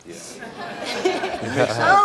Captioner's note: audience laughing